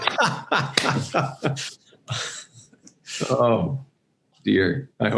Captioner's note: Vint laughs loudly